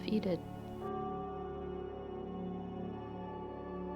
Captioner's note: temple bell